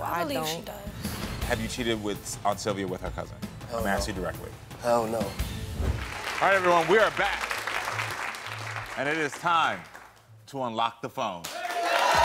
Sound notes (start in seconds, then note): 5.9 audience applauds; 11.4 audience cheers and applauds